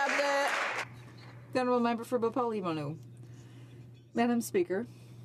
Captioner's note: some Applause